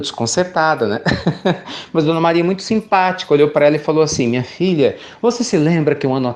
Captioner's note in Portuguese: Risos